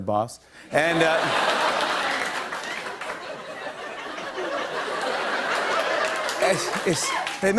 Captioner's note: laughter and applause